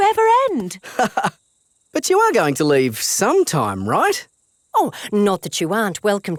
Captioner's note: laughs